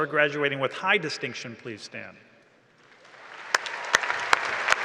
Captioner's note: applause and cheering